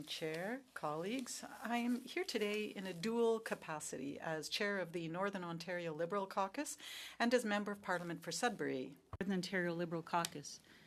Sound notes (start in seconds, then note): 5.7 speaking french